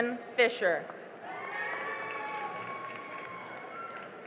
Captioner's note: cheering and applause